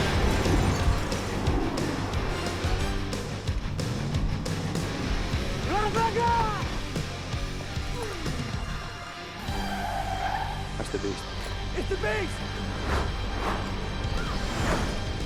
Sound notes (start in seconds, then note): 5.6 foreign language